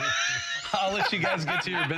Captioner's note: laughter